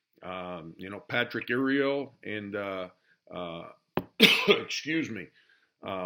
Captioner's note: coughing